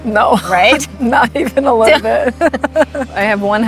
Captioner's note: laughing